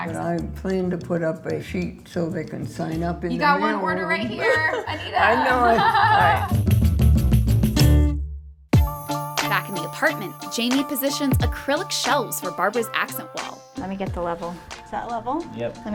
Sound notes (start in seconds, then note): 4.2 laughing; 4.2 laughs; 6.8 cheerful music; 8.8 upbeat music